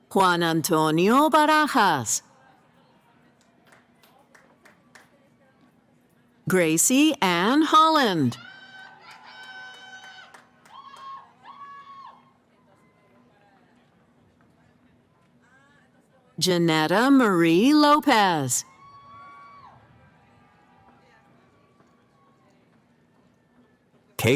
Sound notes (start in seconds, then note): 8.3 cheering; 18.6 cheering